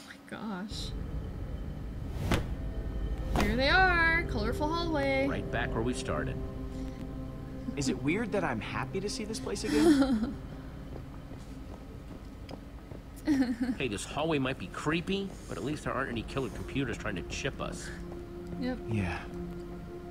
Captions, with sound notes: Oh my gosh. (thump) (thump) There they are. Colorful hallway. (laughs) - Yup.